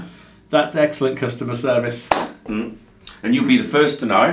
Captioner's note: claps